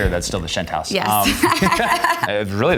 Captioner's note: laughs